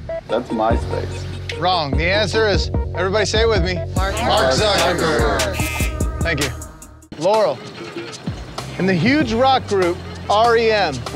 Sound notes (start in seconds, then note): 5.6 buzzer